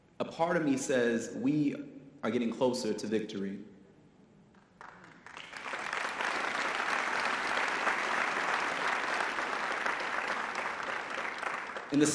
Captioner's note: audience applause